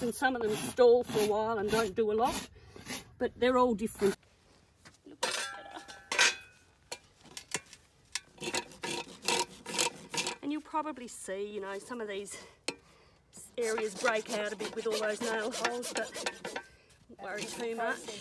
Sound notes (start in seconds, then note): 8.3 file grinding